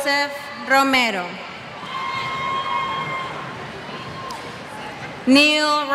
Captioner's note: cheers